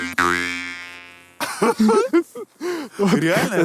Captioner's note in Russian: смеются